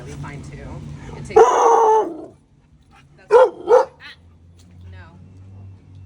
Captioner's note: deep Bark